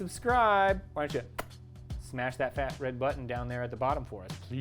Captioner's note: smacking lips